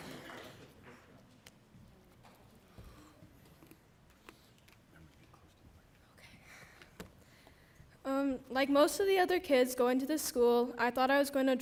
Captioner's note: applause